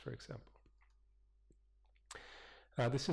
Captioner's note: pause